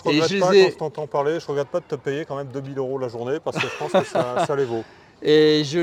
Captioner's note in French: rires